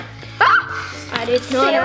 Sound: screams

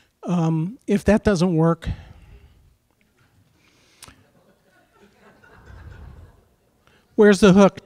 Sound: chuckling

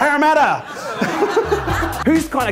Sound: laughter

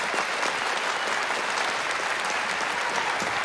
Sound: applause

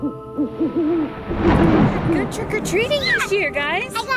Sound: owl hooting; thunder crashing

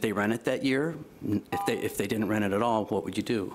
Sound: beep

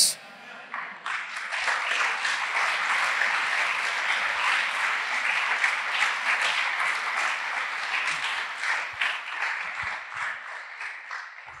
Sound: applause

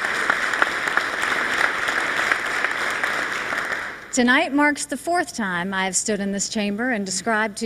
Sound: applause

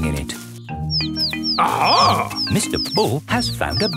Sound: chirping

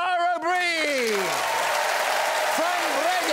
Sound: applause

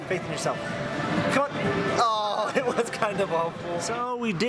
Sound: laughs

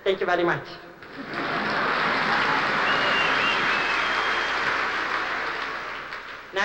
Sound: cheering and applause

